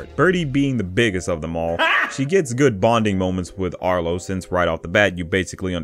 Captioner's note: sound clip of the guy